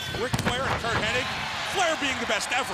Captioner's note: crowd cheering